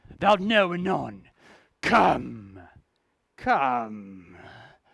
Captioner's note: none